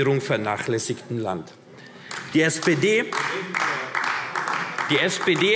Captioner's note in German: Beifall AfD